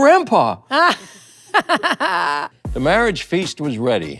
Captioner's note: laughs